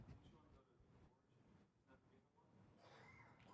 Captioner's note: off microphone